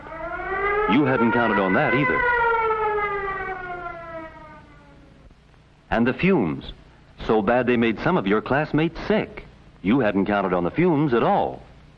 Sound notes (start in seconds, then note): 0.0 siren wailing